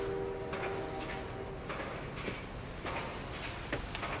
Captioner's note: factory clanging